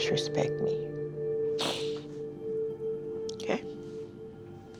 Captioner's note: sniffles